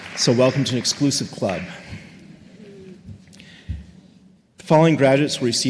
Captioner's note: applause